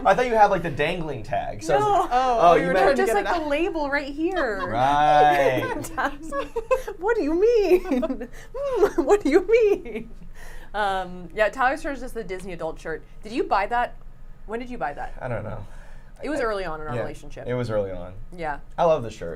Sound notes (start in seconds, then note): 5.9 giggling; 7.5 giggles